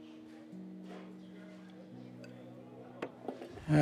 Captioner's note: diners chattering